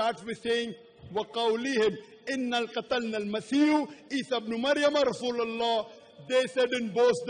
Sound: arabic phrase

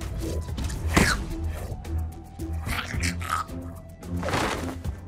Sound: chittering

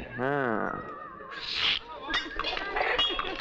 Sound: slurps

